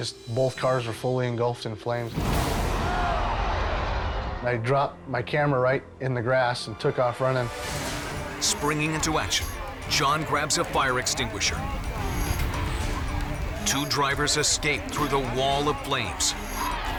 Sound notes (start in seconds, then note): 2.1 cars exploding